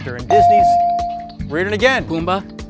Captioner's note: bell dings